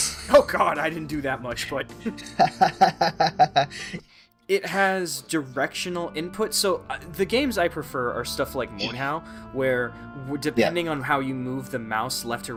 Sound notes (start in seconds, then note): 2.0 laughs